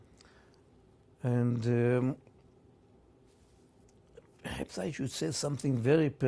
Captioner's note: pauses for 3 seconds